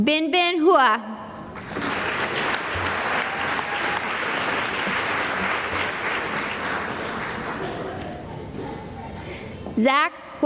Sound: applause

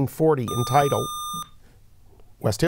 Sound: buzzer

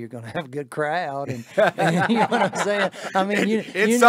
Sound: all laughing heartily

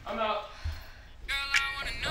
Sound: sigh

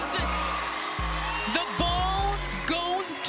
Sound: crowd cheering faintly

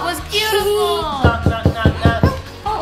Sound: knocking

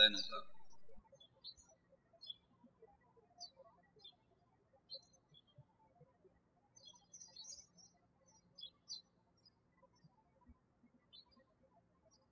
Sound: birds chirping

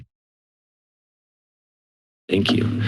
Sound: silence

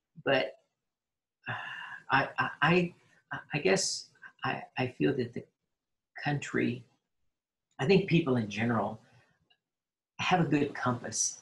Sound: sighs

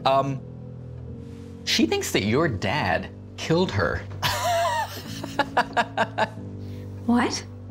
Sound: laughs

